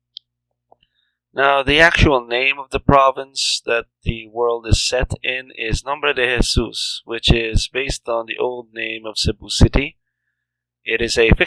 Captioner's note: "Name of Jesus" in Spanish